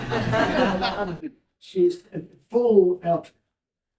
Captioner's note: laughter